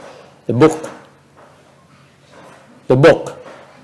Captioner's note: silence